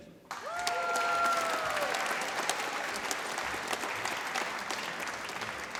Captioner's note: applause